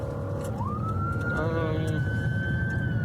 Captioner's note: siren wailing